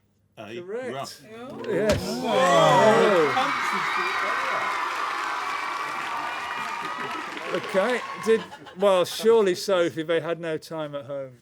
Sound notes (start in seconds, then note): 2.4 applause; 2.6 shouts